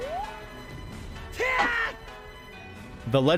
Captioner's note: Link shouting